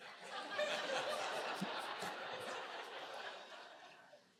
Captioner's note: audience laughs